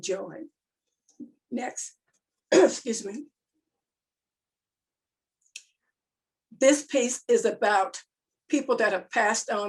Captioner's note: coughs